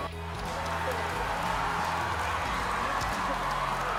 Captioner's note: cheering